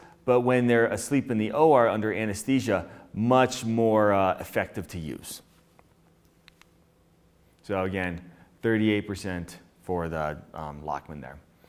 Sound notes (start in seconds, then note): none